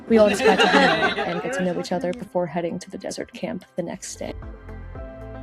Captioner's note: laughter